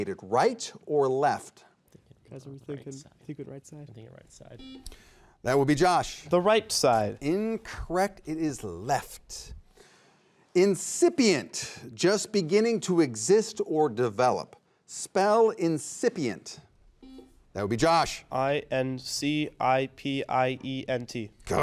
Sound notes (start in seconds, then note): 4.6 buzzer beeping; 17.0 buzzer beeping